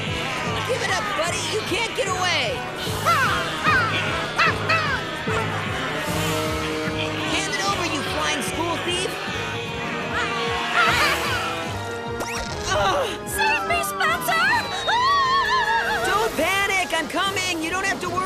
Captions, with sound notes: Give it up, buddy. You can't get away. [cawing] Hand it over, you flying school thief. Save me, Spencer. [screaming] Don't panic. I'm coming. Don't worry.